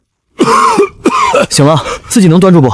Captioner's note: cough cough